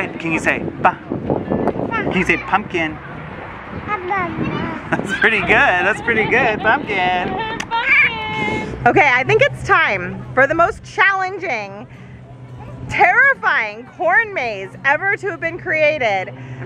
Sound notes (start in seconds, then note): 4.1 mumbles